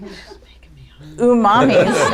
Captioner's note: laughter